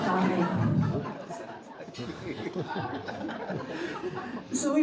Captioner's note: audience laughing